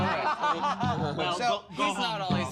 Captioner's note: laughter